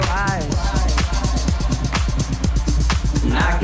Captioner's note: echoing